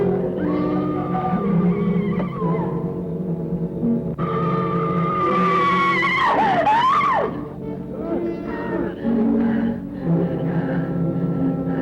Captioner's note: scream